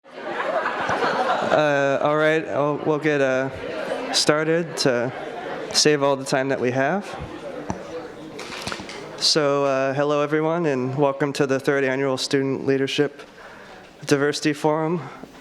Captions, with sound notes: (crowds chattering) - All right we'll get started to save all the time that we have. So hello everyone and welcome to The Third Annual Student Leadership Diversity Forum.